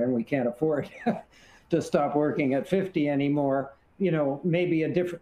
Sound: chuckles

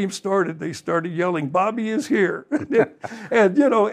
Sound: panel laughing

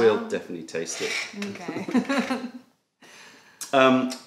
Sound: laughter

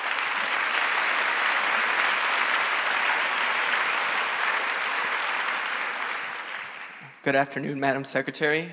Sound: applause

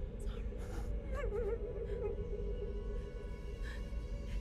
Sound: Zara sobbing

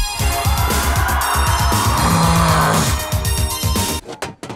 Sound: groaning

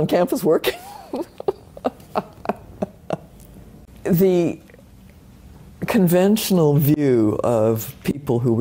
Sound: laugh

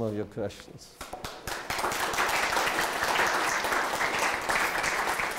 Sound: applause

